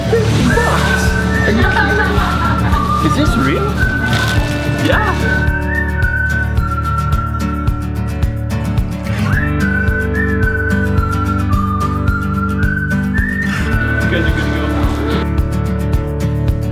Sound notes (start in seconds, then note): 2.5 laughing; 5.5 upbeat music